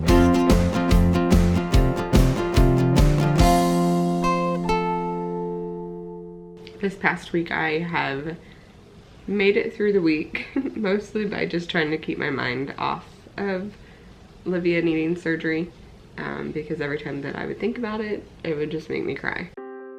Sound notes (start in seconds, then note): 0.0 upbeat music; 10.2 laughs